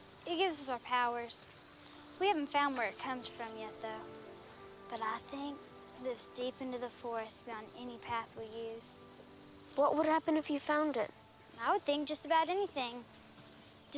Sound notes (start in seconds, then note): none